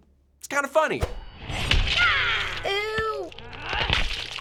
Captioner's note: grunts; in game: grunt